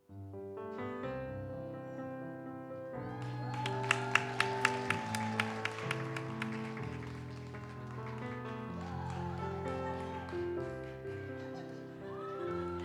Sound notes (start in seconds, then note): 3.0 audience cheers and applauds; 8.2 gentle music continues